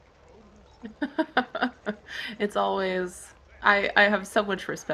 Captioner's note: laughs